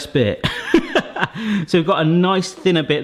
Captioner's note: laughing